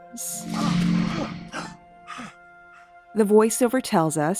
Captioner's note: Jack gasps